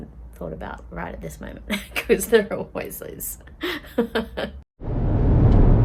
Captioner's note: laughing